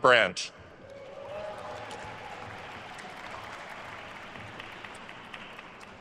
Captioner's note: attendees cheering and applauding